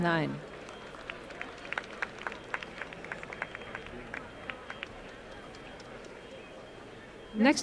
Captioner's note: applause